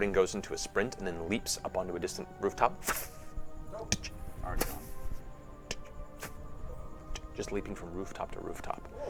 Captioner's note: leaping noises